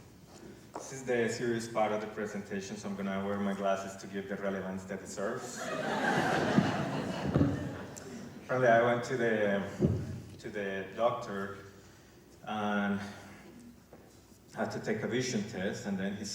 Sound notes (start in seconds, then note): 7.4 laughter